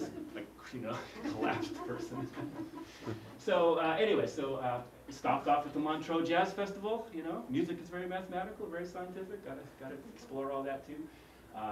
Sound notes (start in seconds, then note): 0.9 laugh